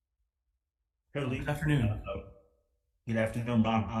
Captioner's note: faintly speaking